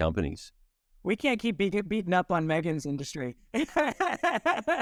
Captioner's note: laughing